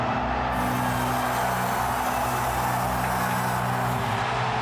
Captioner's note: smoke hisses